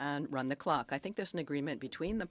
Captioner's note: speaking in French